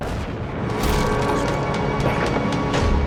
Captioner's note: slam echoing; eerie music